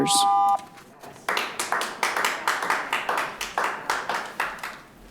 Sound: clapping

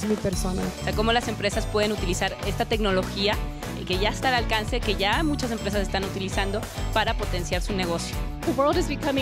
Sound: speaking spanish

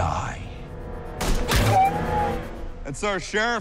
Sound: shooting

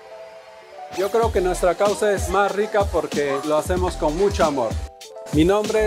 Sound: speaks in a foreign language

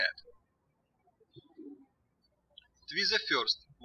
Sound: birds chirping

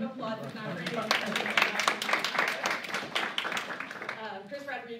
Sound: applause

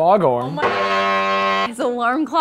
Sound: fog horn sound

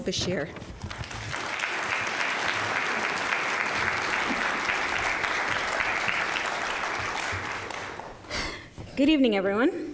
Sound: applause

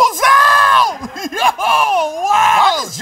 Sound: laughs

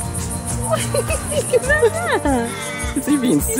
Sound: laugh

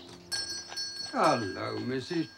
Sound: bell chimes on door

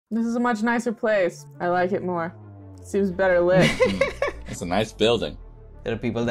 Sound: laughter

